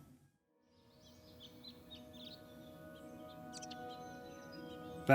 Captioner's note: birds chirping